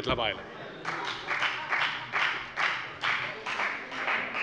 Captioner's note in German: Beifall bei der FDP